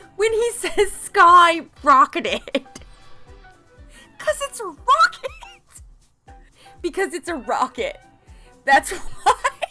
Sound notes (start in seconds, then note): 3.3 laughs